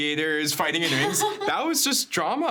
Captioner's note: laughing